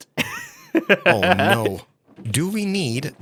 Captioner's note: laughs